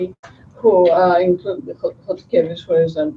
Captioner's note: non-english speech